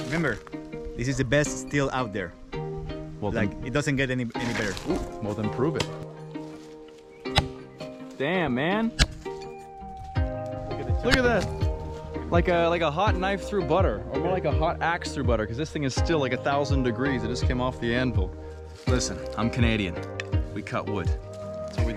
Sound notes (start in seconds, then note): 6.4 thudding